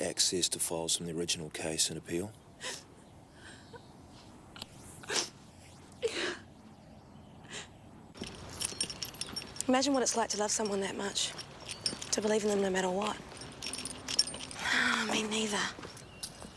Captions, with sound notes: to files from the original case and appeal? (sniffing) - Yeah. - Imagine what it's like to love someone that much, to believe in them no matter what, (sighs) me neither.